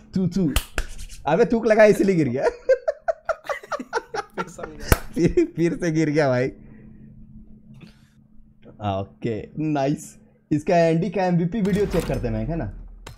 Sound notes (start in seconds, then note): 2.4 deep chuckle